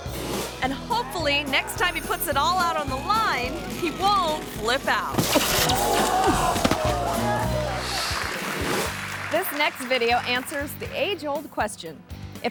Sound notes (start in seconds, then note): 5.1 thuds; 5.3 crowd groans; 7.3 screen whooshes; 8.9 audience applauds